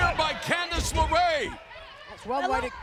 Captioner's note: loud thud